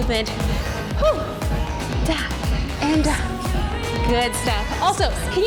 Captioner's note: breathes laboriously